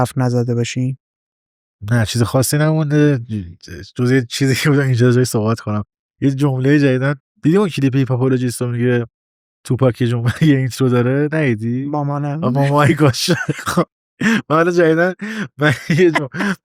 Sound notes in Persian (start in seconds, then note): 12.6 خنده